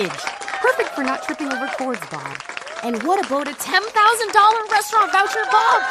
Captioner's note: cheering